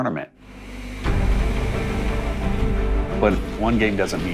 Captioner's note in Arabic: فحيح الحافلة